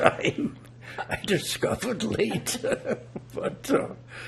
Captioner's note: laughing